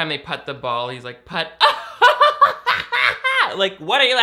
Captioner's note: laughs